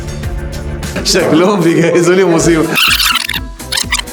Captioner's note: laughs!